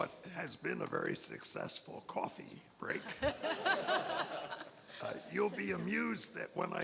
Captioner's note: panelists laugh